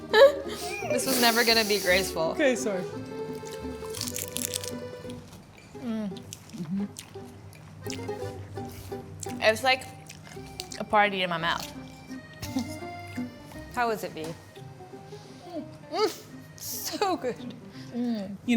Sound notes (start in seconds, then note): 0.0 laughs; 3.3 lettuce crunching; 7.8 lips smacking; 17.8 chuckles